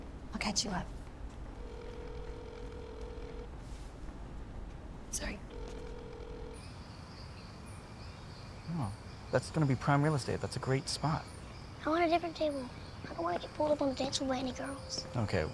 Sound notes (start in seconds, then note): 1.5 phone ringing; 7.8 birds chirping